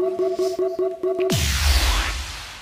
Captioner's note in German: Buzzer